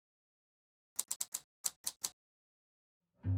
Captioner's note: typewriter clicks